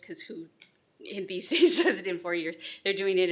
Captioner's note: laughs